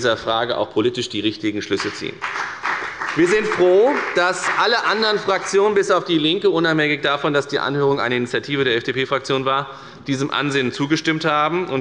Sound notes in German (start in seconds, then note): 1.8 Beifall bei der FDP